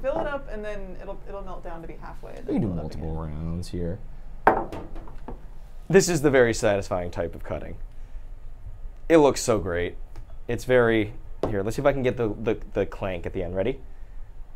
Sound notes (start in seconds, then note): 4.4 cup thudding